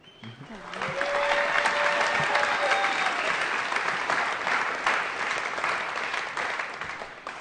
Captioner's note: applause